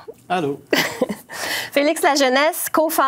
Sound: giggles

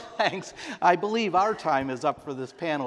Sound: laughter

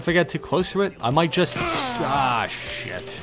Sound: DOA death sound effect

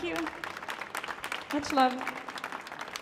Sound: applause

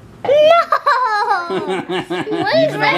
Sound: laughing

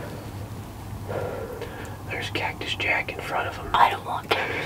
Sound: whispering

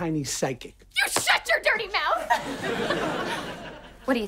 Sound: laughing

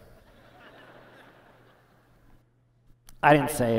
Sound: laughter

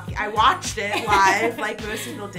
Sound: laughs

